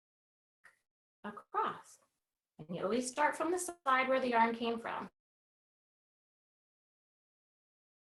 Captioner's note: audio cuts out